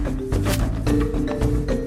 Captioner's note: lasso catches